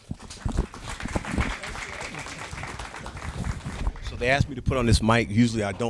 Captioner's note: audience applauding